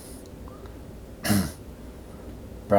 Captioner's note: clears throat